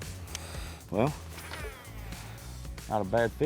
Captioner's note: pat